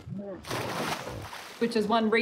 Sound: hippo grunting; water splashing

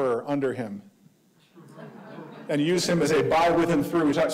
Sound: audience laughing

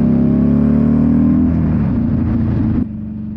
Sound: engine roaring

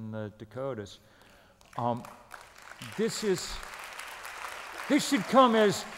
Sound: applause

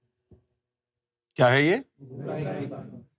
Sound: audience replies

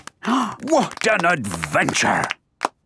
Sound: applause

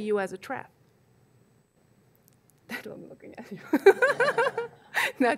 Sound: laughs

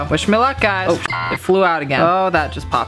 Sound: beep

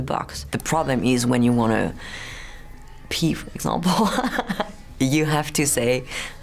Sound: laughs

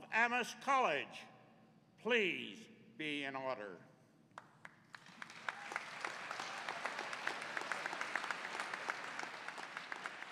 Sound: applause

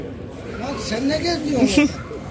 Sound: speaking Turkish

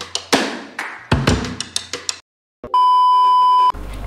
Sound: clap

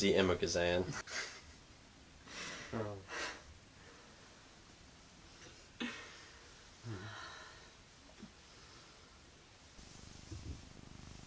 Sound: silent laughter

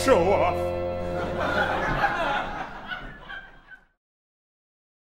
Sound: laughter

